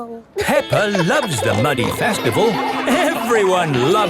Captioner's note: laughing